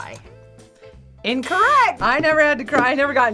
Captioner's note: buzzer rings